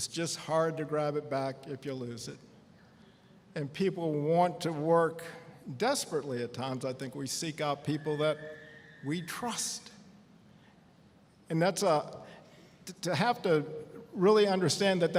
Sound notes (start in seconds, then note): none